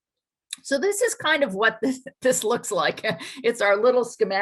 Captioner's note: laughs